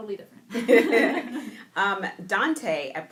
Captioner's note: laughing